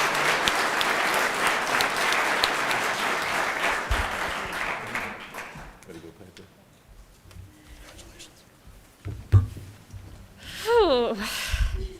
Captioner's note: applause